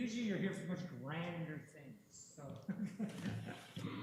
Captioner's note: chuckles